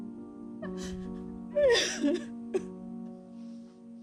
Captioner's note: crying